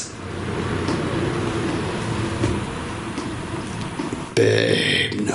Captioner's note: soft footsteps